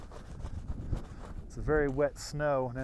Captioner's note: scratching